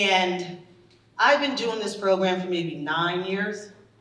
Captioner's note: none